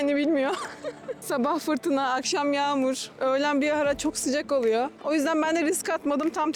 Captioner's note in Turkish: kahkaha